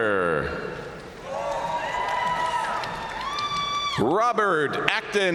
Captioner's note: audience cheering and applauding